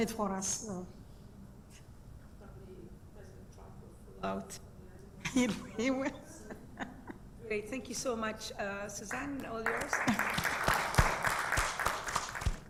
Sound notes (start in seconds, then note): 9.2 applause